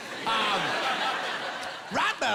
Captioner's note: laughing